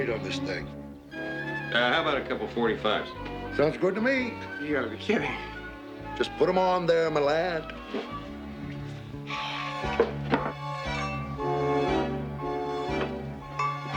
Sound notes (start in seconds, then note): 7.7 sighing